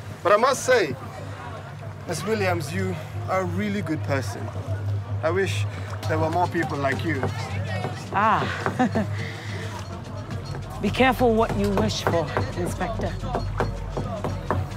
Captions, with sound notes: But I must say, Ms. Williams, you are a really good person. I wish there were more people like you Ah! [CHUCKLES] Be careful what you wish for, Inspector